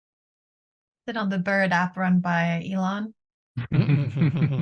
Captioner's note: chuckles